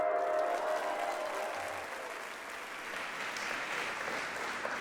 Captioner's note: soft music; audience applauding